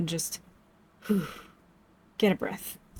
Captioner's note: breathes